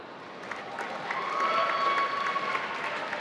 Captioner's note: applause